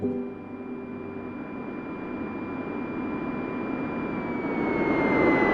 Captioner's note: speaking in foreign language; plane engine whirring